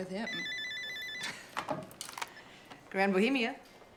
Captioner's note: phone ringing